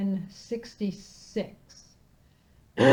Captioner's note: coughs